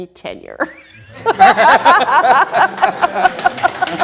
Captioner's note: all laughing; both laughing